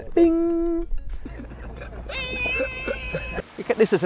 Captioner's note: screams; laughter